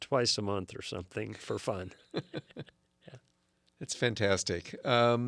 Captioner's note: laughs